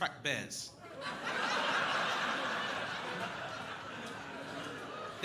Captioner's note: crowd laughing